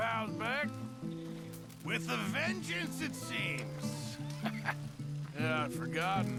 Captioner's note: laughs